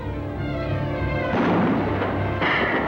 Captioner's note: gun fires